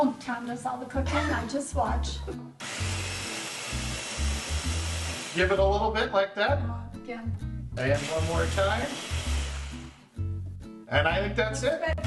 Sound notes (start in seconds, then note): 2.6 food processor whirring; 7.9 food processor whirs